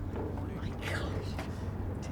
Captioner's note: whispering